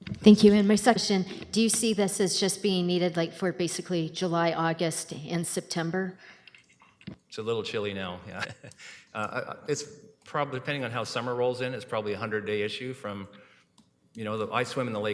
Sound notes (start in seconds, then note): 8.2 chuckles